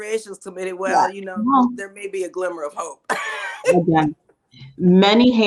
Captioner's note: laughs